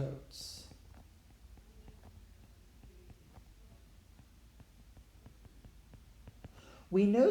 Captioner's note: writing